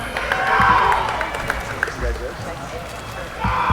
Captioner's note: applauding